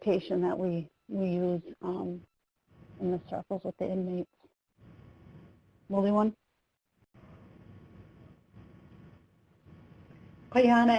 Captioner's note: speaking native lanugage